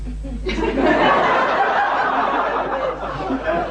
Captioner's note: laughter